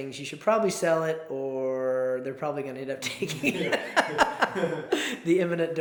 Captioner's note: laughs